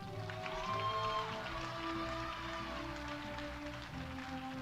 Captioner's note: audience applauding